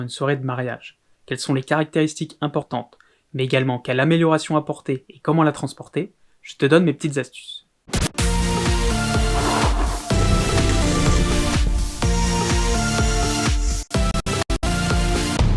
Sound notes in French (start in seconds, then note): 9.0 Scratch